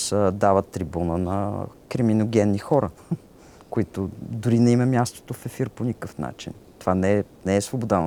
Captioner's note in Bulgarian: смее се